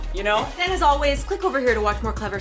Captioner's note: hip hop music; whoosh